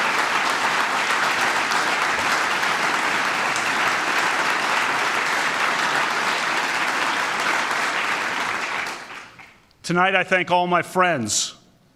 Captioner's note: applause